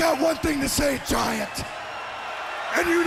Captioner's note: crowd cheering